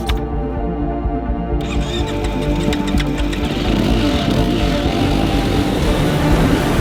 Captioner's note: engine starting; music swells